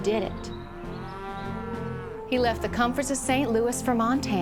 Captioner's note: cattle mooing